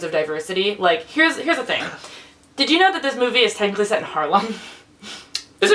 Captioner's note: laughs